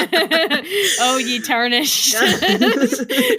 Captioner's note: laughter